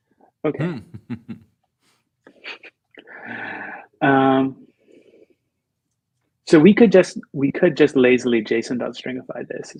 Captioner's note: laughter